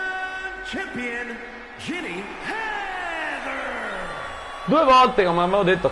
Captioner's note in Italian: Applauso